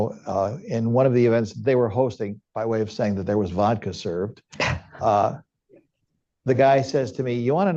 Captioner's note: laughter